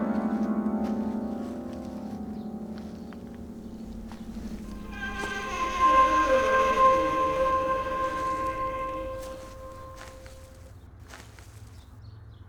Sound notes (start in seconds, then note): 4.9 door squeaking